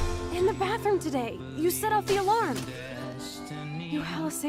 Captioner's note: fire alarm